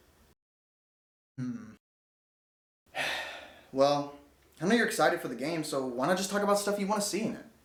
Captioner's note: sigh